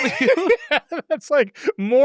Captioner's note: both laughing